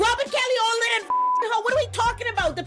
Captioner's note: beep